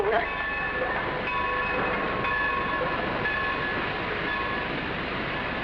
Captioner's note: train rumbling; bell tolling